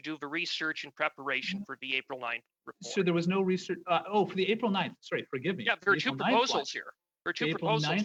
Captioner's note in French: voix de l'interprète